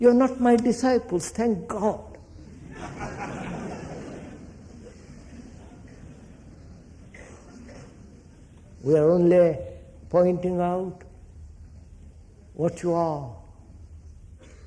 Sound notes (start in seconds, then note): 2.5 laughter